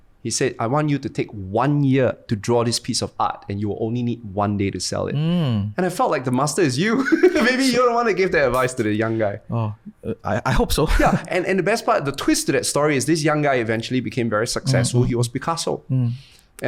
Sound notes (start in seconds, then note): 6.9 laughs